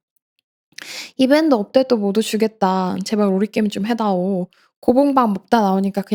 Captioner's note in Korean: 콧방귀